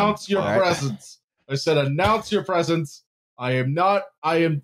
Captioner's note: thumps on desk